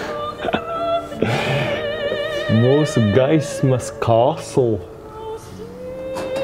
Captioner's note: laughts